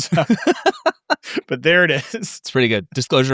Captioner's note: laughing